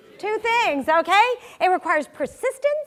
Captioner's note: none